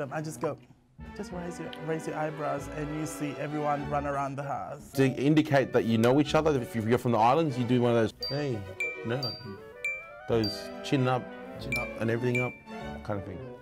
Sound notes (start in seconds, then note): 9.8 ping; 12.3 ping